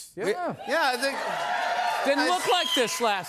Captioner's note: cheers and applause